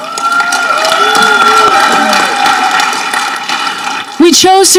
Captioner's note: audience cheering